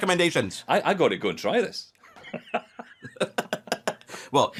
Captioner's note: laughs